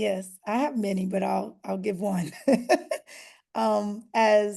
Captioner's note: laughter